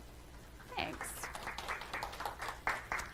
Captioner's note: audience applauding